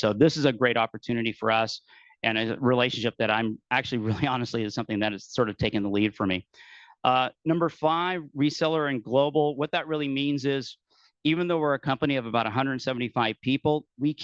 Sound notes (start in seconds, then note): 4.0 laughing